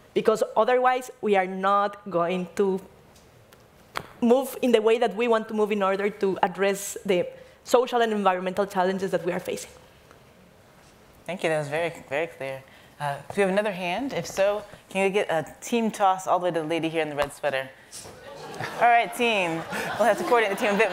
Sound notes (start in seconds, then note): 18.2 audience laughing; 19.9 audience talking